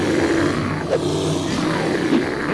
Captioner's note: bear growling